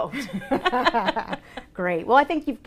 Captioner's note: laughing